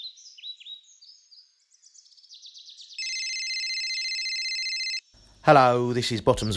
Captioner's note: phone ringing